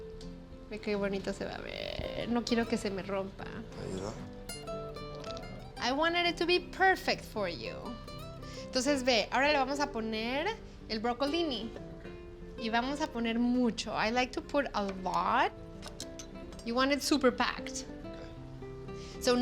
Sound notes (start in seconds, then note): 0.1 speaking Spanish; 3.6 speaks Spanish; 8.6 speaking Spanish